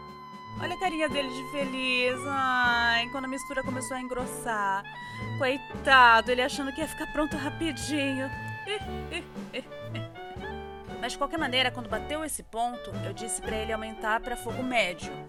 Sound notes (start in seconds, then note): 8.6 laughs sarcastically in PT-BR